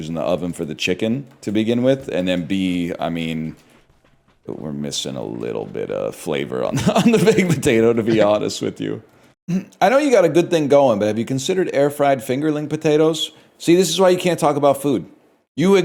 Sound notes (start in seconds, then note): 3.7 hushed; 6.7 cracks up